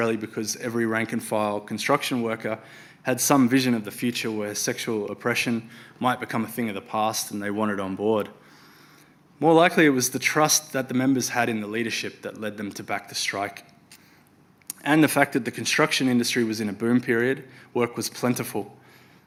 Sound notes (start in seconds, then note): none